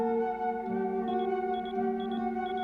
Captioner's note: beeping